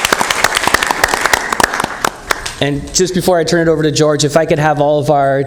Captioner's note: applause